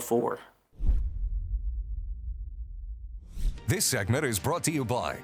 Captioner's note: logo whooshes; upbeat music